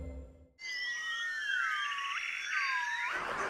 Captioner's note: hooting and piping; honking